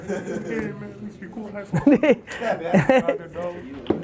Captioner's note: laughs